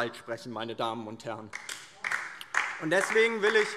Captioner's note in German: Beifall DIE LINKE